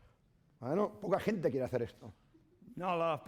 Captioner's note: speaking spanish